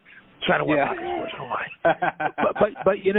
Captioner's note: laughter drowns out speaker